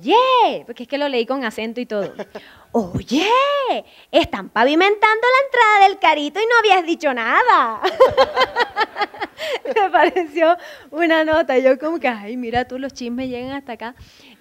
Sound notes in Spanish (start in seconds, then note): 2.5 con acento; 7.8 risas